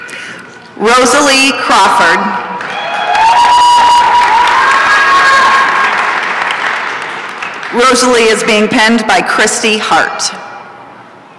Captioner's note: applause and cheering